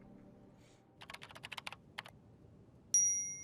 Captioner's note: keyboard keys clicking; cell phone chimes